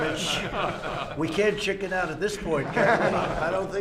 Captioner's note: laughter